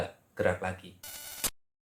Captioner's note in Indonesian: suara interferensi